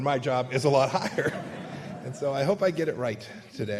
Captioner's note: laughter